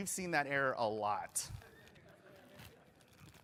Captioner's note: laughter